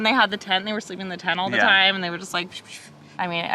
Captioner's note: vocalizes